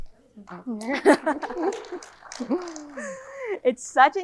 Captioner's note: audience clapping